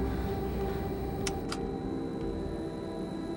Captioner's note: button clicks; soft gloomy music continues